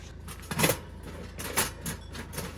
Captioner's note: clank